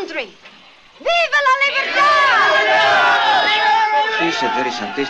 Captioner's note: Spanish spoken audio